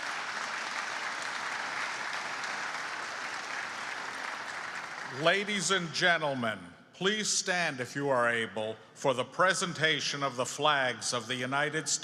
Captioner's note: applause